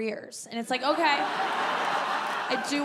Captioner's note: audience laughing; audience laughing and clapping